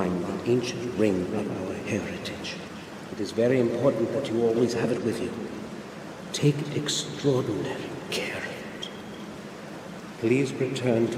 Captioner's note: menacing ghost sounds